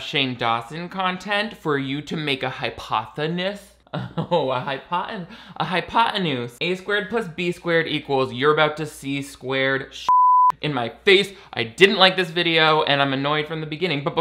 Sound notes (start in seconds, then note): 10.1 beeps